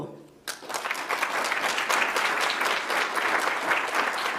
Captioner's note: audience applauds